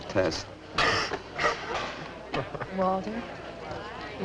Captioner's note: coughs